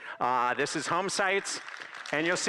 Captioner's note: applause